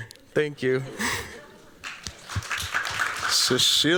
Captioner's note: applause